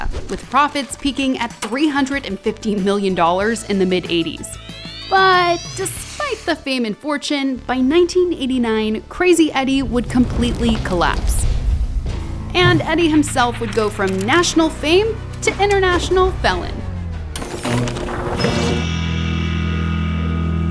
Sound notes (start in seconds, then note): 11.1 building rumbles; 17.7 bold music